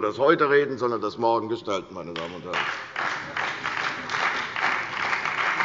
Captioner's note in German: Beifall bei der CDU und dem BÜNDNIS 90/DIE GRÜNEN